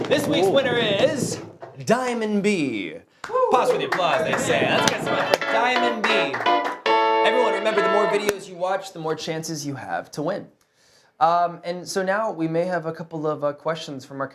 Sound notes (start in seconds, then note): 3.2 applauding